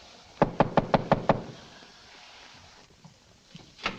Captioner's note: knocks on door